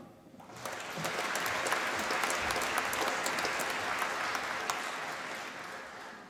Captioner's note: applause